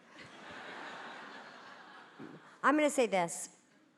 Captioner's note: audience laughing